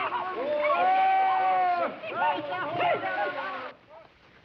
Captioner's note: people yelling